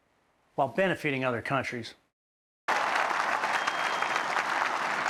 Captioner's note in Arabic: تصفيق الجمهور